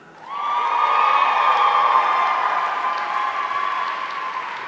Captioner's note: audience cheering